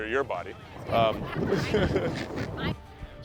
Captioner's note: laughing